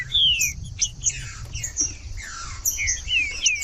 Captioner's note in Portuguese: trinca ferro cantando